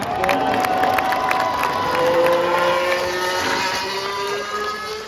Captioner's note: applause